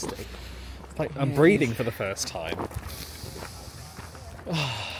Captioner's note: exhaling